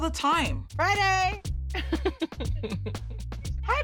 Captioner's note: laughs